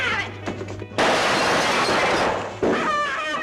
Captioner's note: tommy gun firing